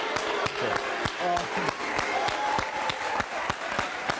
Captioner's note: audience cheers